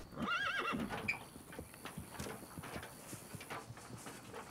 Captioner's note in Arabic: صهيل الحصان